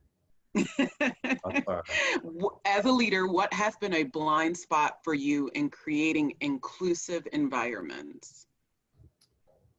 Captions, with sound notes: (laughing) "As a leader, what has been a blind spot for you in creating inclusive environments?"